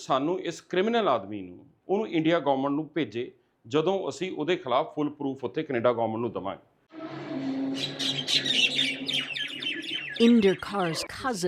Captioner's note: speaking alternate language